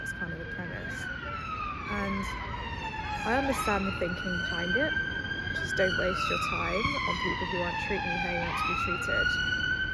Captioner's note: the sirens in London lol